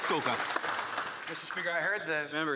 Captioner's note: some Applause